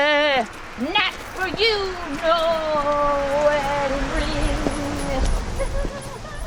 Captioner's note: laughs